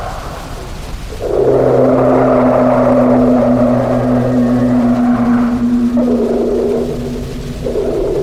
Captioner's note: smaller roars join in; large creature groans overhead